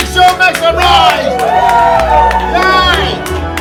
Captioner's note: sound of cheering